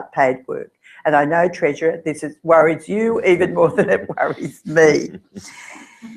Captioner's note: laugh